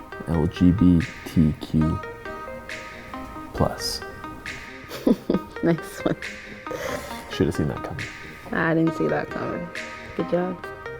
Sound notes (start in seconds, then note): 4.8 chuckles